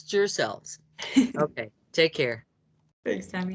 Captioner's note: laughing